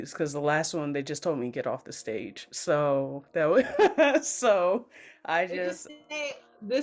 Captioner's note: laughs